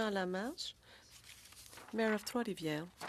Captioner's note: speaking French